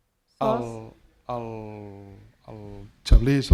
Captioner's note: speaking spanish